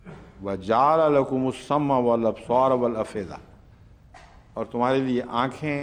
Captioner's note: Arabic